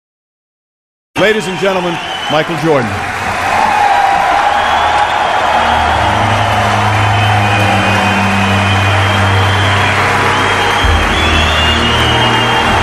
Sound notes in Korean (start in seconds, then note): 3.4 박수 함성